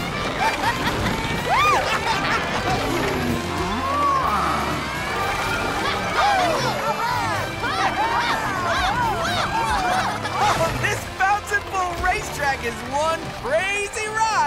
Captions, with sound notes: [laughing] [mooing] [cheering] This Bouncin' Bull racetrack is one crazy ride!